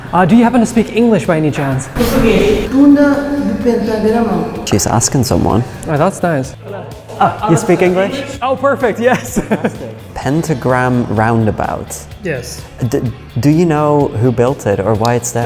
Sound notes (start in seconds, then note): 2.4 employee speaking in Portuguese